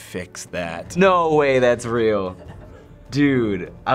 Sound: Finebros chuckles

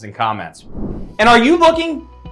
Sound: air whooshing

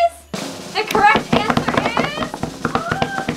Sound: drum rolls; thumping on table

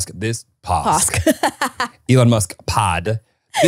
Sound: laughing

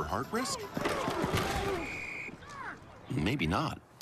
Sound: SFX: Crash of football players collidinofg f-camera

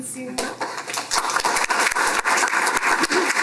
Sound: applause

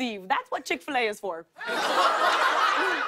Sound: laughter

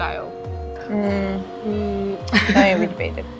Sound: mockingly

